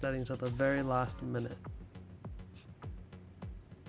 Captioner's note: Chinese